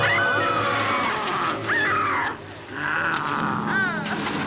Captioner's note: Mary screaming; werewolf growling; Mary whimpering